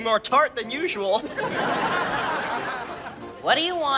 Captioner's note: audience laughing